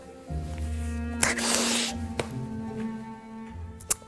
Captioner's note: sniffling